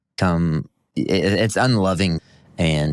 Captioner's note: stammering